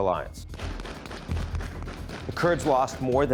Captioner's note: gun blasting